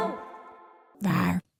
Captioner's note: soft roar